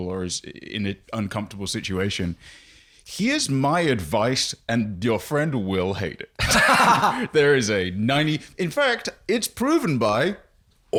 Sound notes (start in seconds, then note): 6.4 laughs